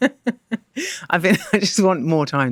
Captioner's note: laughter